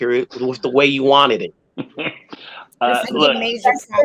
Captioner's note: chuckling